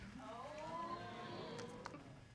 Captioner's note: audience exclaiming